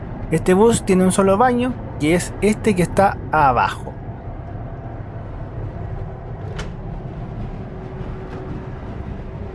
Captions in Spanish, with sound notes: este bus tiene un solo baño que es este que está acá abajo (sonido ambiente en el bus)